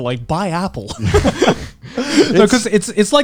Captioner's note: laughing